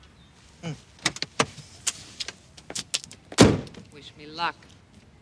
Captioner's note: car door opening